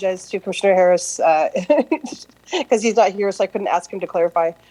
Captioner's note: laughter